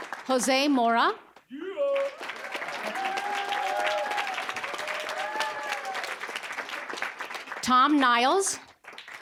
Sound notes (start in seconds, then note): 0.0 applause; 1.6 cheering, applause